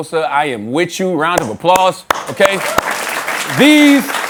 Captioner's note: applause